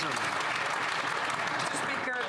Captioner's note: some Applause